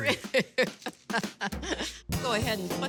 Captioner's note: chuckling